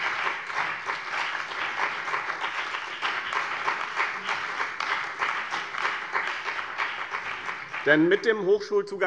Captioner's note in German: Beifall bei dem BÜNDNIS 90/DIE GRÜNEN und der CDU